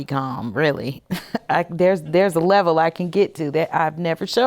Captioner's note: chuckles